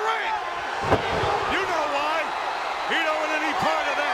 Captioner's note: body thudding